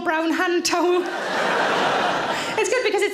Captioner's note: audience laughing